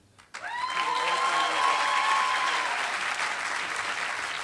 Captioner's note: applause